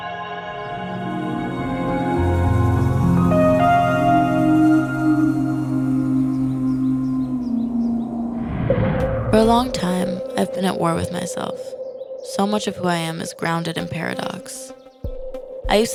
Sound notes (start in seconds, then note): 0.2 fantasy music; 8.2 transition whooshing